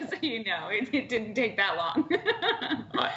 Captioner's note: laughter